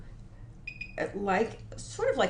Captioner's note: device beeps